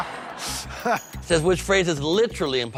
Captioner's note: laughs